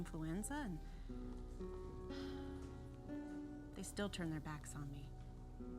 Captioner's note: sighs